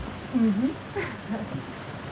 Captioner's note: laughter